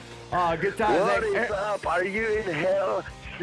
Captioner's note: on phone